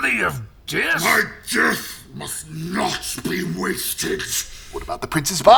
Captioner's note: strained